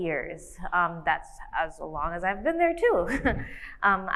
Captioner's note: laughs